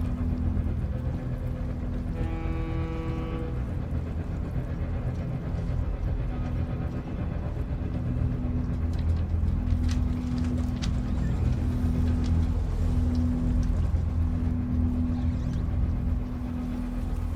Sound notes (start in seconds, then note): 2.0 boat horn blowing; 9.4 tense music continues